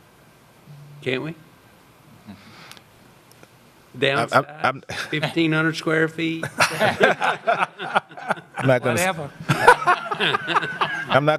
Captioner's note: laughter